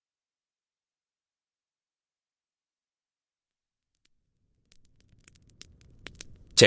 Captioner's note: sound of Campfire in background